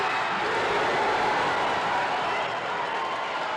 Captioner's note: crowd cheers